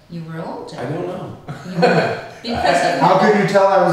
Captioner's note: laughs